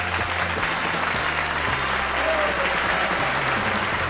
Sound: applause

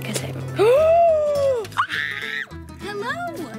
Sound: screaming

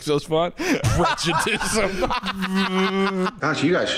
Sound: laughs; cackling

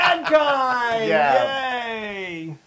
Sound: laugh

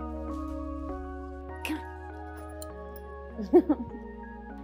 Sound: laughs

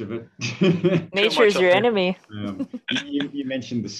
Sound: laughs

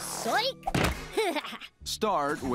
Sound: laughs

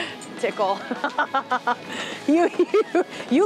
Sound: laughing

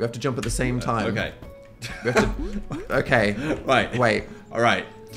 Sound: laughs

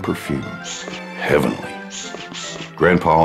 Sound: perfume bottle squirts

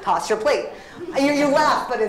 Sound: laughter

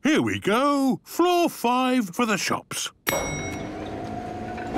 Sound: elevator dinging

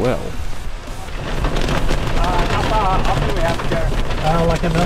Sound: sounds of heavy rain and hail

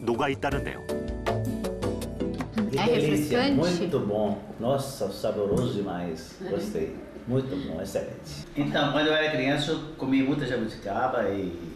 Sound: voiceover

